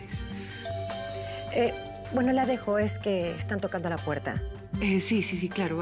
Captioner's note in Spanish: Timbre de la puerta